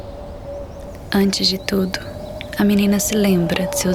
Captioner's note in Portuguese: em off